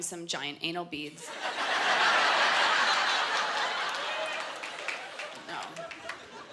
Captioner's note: laughter